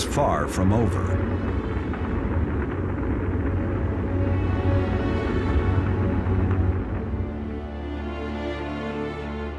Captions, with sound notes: in putting two spacecraft into orbit. (rocket engine roars) The space race was far from over.